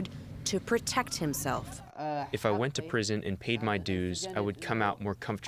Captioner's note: through translator